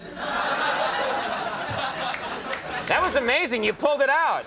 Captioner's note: audience laughing